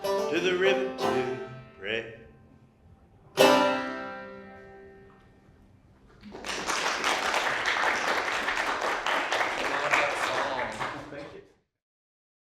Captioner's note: applause